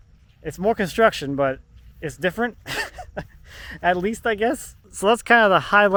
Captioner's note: laughing